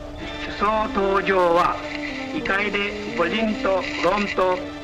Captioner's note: speaking Japanese